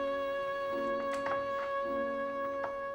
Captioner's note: door opens